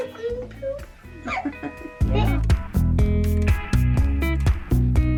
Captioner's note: laughing; upbeat music